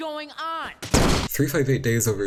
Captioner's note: explosion